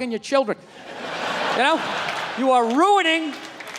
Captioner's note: crowd laughs